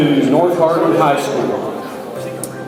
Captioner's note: crowd chatters